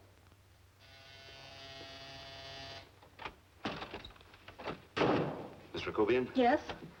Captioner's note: doorbell buzzing